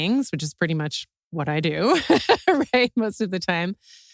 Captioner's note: laugh